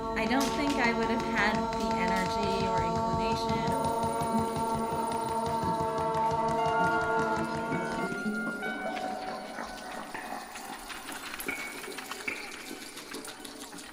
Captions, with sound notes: I don't think I would have had the energy or inclination ... (beads rattling) (instruments playing)